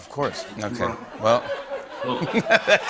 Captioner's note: laughter